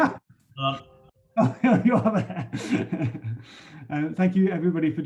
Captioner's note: laughs